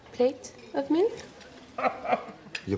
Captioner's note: <i> chortles</i>